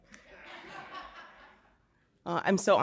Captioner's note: audience laughing